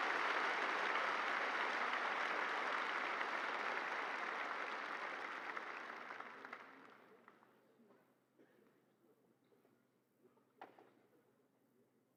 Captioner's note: cheers and applause